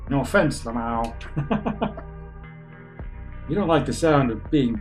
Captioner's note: chuckles